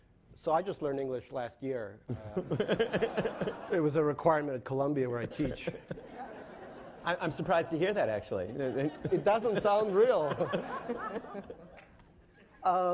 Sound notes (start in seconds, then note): 2.2 laughing; 6.1 laughing; 10.5 laughing